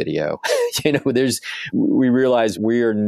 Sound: laughs

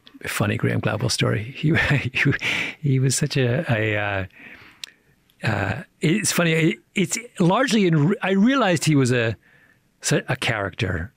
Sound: chuckles

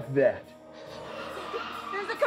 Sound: ghostly screeching

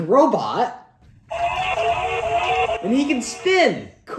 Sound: robot siren wailing

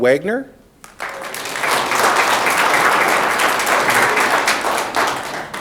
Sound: audience clapping

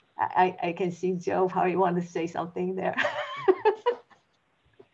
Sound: laughs

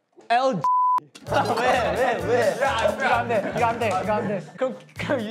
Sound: laughing

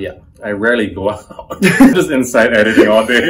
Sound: laughter

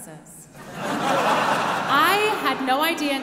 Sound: audience laughing

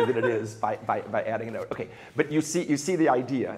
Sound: laughs

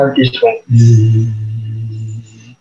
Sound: buzzes

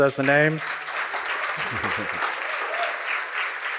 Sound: applause

